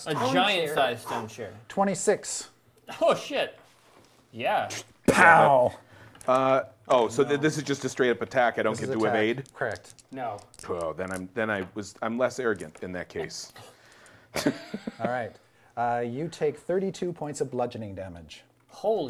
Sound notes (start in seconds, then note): 14.3 laughing